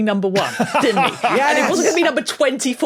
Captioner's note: laughs